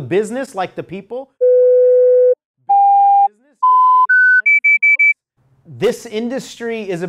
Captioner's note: beep Beep BEEP